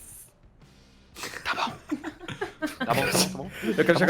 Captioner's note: laughs